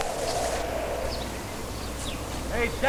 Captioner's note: wind howling